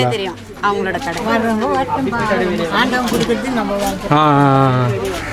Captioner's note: indistinct chatter